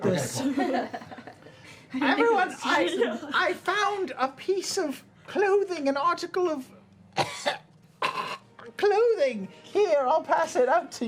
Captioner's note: hacking cough